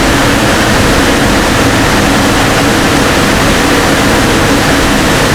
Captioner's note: engine revving